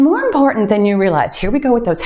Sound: timer beeps

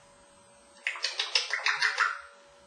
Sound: lip smacking sound

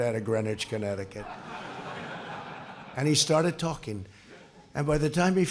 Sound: laughter

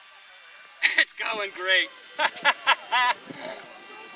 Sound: chuckles!

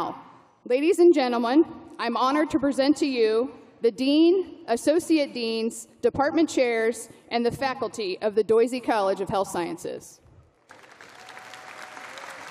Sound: applause

